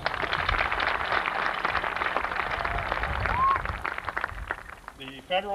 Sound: applause

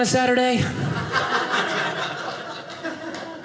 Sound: audience laughing

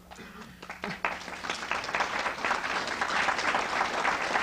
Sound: applause

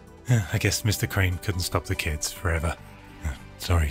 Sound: synth Voice; sighs

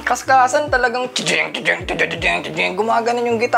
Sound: imitating guitar chugs

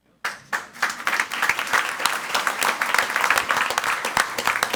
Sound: crowd clapping

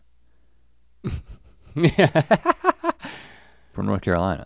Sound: Link chuckles

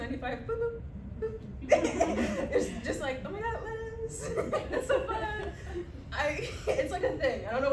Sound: laughter

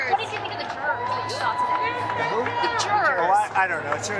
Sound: cheers and applause

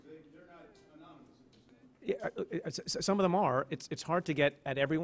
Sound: stutters

